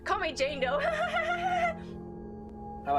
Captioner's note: laughs